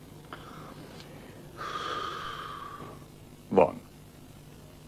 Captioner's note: exhaling